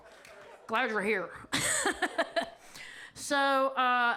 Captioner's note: laughs